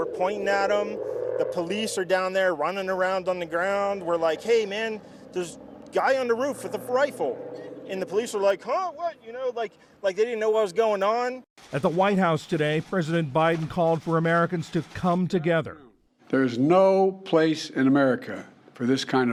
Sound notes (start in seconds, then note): 11.9 voice-over